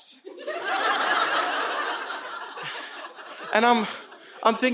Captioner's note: audience laughing